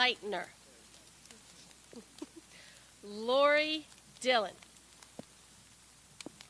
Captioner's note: chuckles